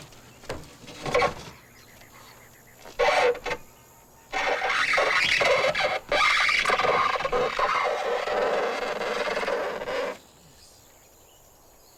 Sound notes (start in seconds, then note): 2.6 crate squeaks